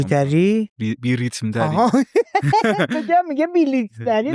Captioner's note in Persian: خنده